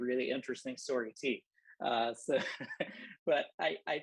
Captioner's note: laughter